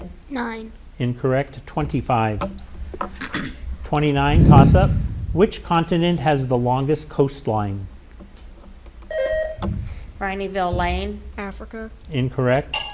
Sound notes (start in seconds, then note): 2.3 light clattering; 9.1 buzzer ringing